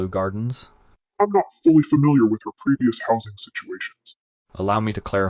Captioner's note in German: verzerrt